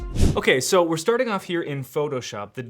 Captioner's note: air whooshing